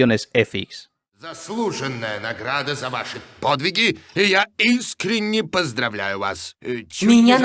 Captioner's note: speaking in Russian; women speaking Russian with echo